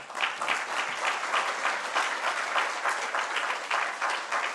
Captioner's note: applause